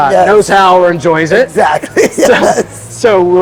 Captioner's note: laughing